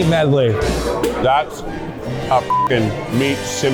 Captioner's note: beep